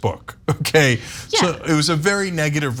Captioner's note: laugh